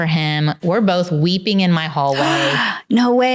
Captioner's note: gasps